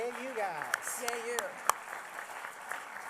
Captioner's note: applause